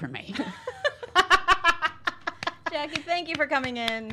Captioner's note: laughs